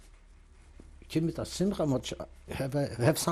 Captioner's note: non-english